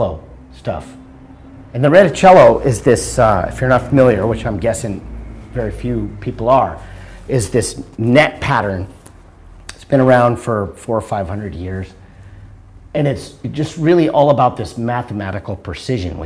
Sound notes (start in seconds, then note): none